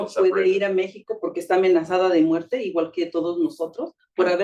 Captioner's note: speaking Spanish